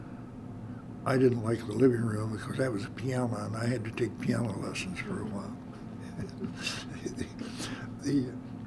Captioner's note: laughter